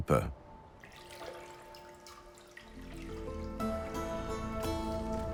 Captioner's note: bell tolling distantly; water sloshing